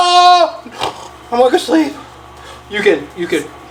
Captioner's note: snoring